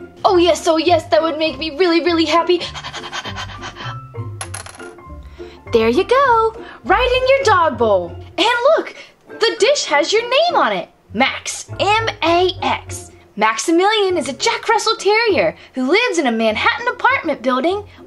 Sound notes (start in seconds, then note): 2.6 panting; 4.7 dog bowl clinks